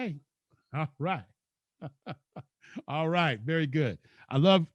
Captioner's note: laughs